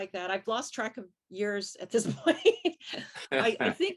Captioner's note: laughs